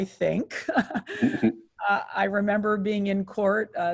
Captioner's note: chuckle